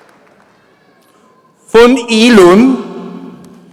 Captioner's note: applause